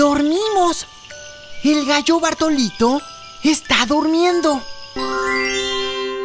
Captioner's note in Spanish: Susurrando